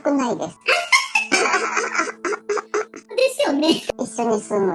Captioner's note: laughs